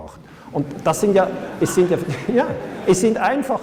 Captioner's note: laughter